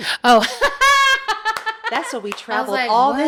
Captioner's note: laughs